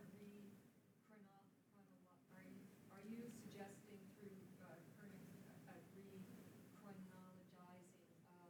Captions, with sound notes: Are you suggesting through her (speaking faintly)